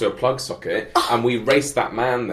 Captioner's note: laughs